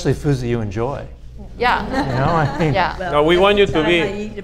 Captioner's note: audience laughs